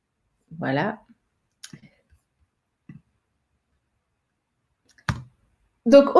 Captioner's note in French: Silence